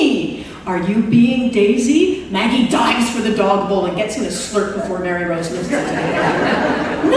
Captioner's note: laughter